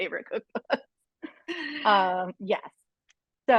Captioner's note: laughing